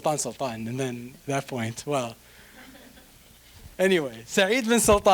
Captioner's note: audience chuckling